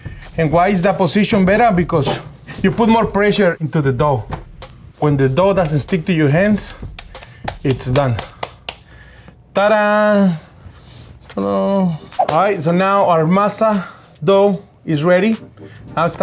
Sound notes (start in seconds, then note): 8.5 slapping